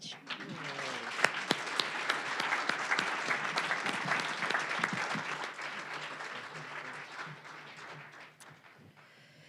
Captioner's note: applause